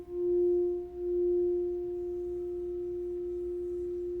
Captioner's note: high pitch tone